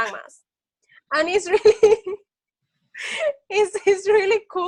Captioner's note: laughs